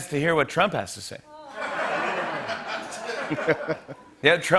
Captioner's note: laughter